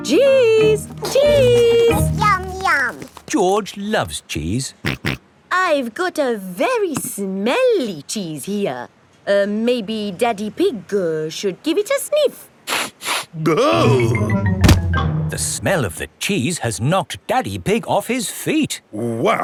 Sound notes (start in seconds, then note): 5.3 snorts; 12.8 sniffs and groans